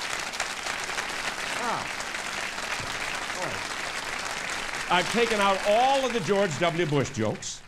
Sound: applause

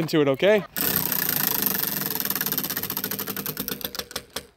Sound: wheel whirring

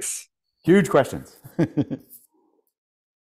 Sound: laughs

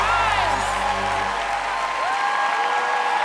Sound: cheers and applause

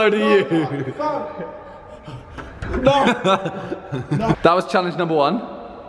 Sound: laughing

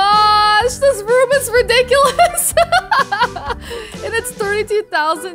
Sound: laughs

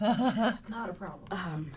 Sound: laughs

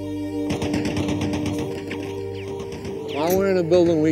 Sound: gunfire rattling

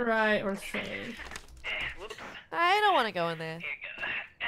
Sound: laugh

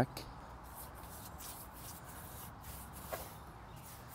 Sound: painting sounds

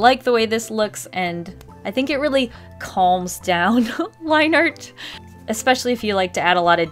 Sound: laughs

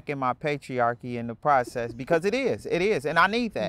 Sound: laughs

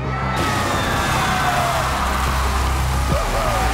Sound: audience cheers

